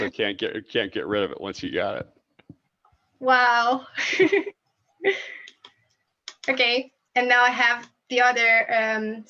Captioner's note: laughs